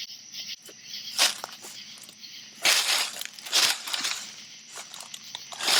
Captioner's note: leaves rustling